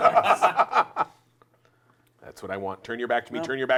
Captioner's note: laughter